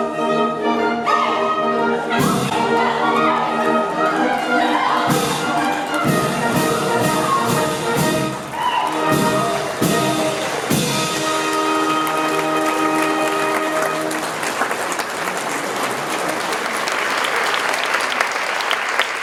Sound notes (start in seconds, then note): 0.1 LADIES' cries of indignation, SOLDIERS' taunts; 7.9 applause